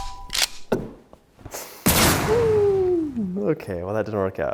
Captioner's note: gun booming